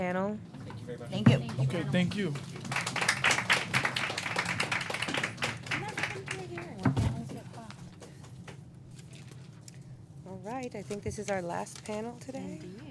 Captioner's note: applause